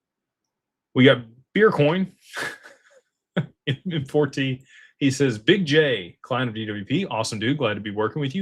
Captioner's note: laughter